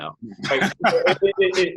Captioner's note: laughs